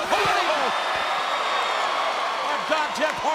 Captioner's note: crowd cheering